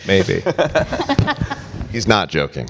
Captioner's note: panelists laugh